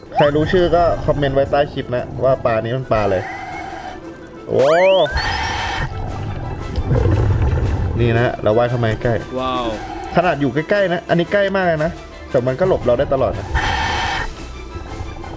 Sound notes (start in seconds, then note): 6.8 exhale; 13.4 inhale